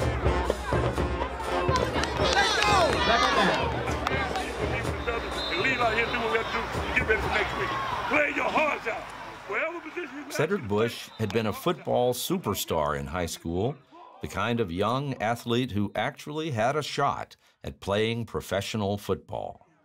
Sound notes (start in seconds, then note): 1.6 shouting and cheering